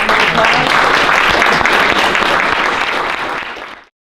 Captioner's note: applause